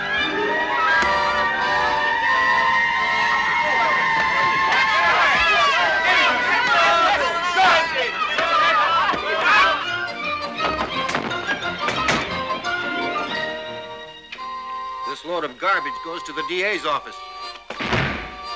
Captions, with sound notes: (CHEERING) This load of garbage goes to the DA's office.